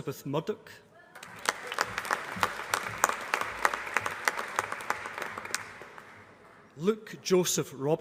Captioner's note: applause